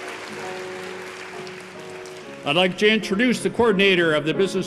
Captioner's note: applause